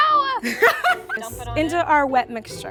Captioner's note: laughs